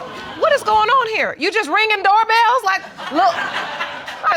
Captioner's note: audience laughs